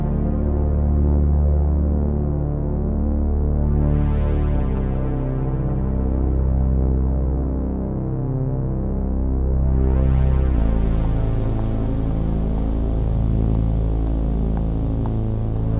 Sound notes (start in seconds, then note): 10.6 steam hisses